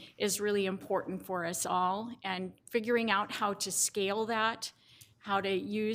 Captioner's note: none